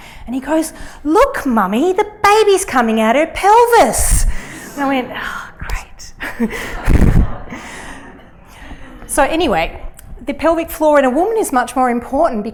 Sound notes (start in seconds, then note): 6.2 laughter